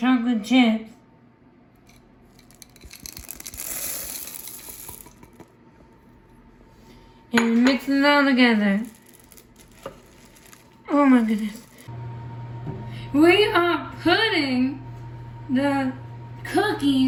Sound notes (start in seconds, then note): 2.9 pouring; 8.9 stirring